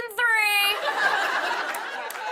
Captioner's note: laughter